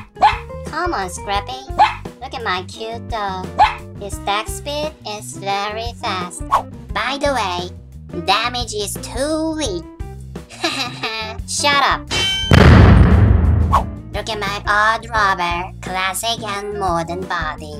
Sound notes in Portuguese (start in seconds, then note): 10.5 Risadas